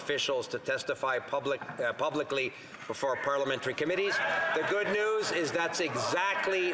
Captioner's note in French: voix de l'interprète